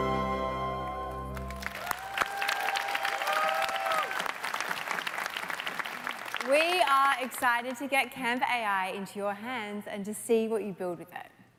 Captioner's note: applause